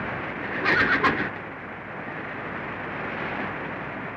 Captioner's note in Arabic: صهيل الحصان